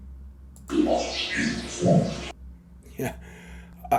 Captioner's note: disembodied Voice